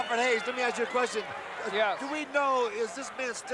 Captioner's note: crowd cheers